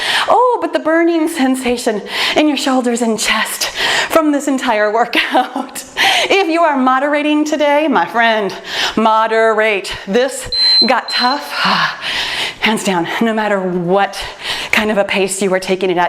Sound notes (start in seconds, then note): 10.4 timer beeps